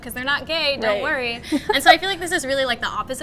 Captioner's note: laughs